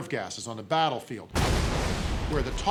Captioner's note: grenade explodes